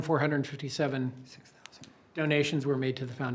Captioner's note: whispers